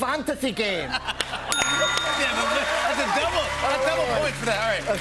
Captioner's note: ding